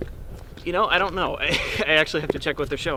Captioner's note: laugh